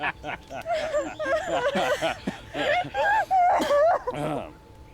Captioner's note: both laughing; Lisa sobbing; Murray clears throat